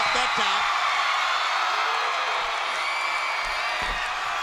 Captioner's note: crowd cheers